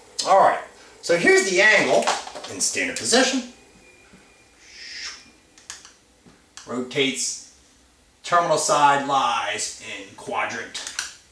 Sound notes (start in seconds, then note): 4.5 whooshing sound